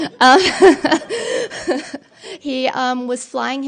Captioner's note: laughter